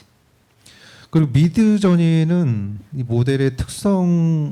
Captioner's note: speaking korean